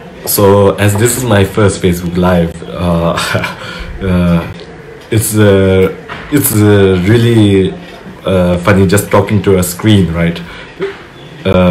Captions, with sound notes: So as this is my first Facebook Live, (laughs) it's really funny just talking to a screen, right?